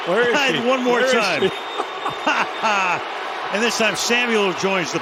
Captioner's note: laughter